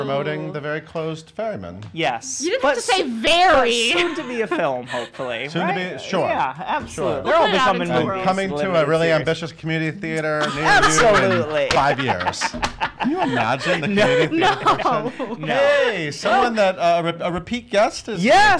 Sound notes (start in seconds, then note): 10.4 laughs; 15.5 laughing